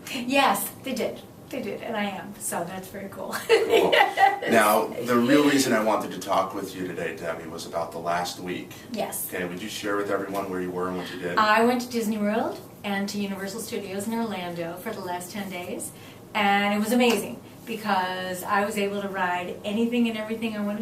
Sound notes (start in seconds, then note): 3.4 laughing